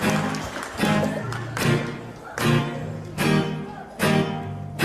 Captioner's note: applause